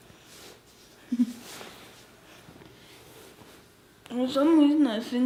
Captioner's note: giggles